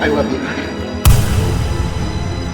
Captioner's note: gunshot